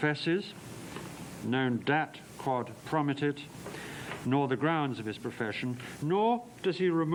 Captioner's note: non-english speech